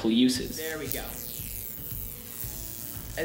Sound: device sizzes

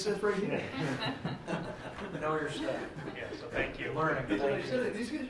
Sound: laughter

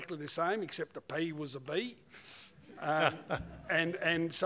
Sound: laughter

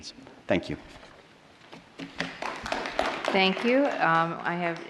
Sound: applause

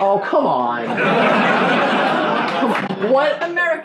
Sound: laughing

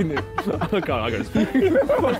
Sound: all laughing

